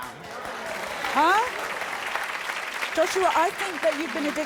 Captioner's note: audience applauding